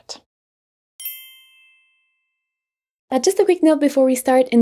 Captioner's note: bell chiming